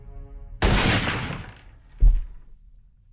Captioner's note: gun blast; body drops